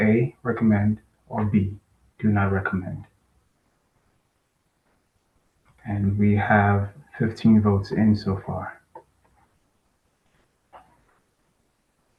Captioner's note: pause